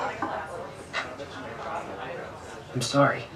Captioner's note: patrons chattering